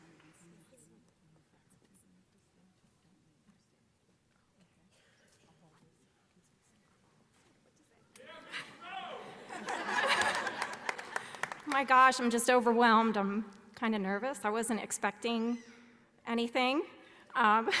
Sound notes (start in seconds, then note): 8.8 audience member yelling; 9.2 audience laughing